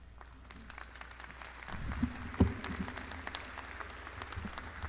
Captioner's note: crowd applauding